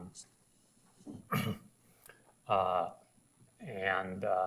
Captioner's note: ahems